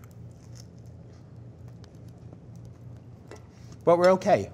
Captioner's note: sandwich crunches